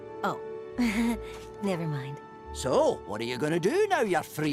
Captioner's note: chuckles